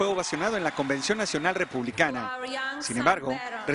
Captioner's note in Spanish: aplausos